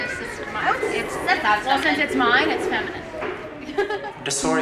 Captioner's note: laughter